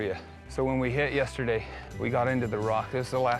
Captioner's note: none